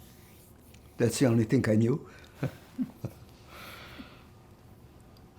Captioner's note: laughing